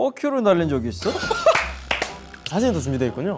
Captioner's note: burst out in laughter